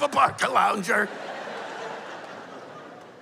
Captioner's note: laughter